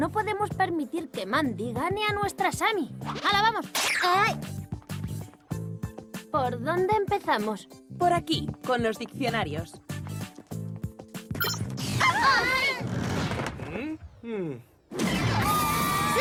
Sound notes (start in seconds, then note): 11.6 yelling; 15.3 wailing